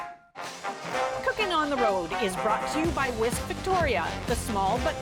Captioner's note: announcer voice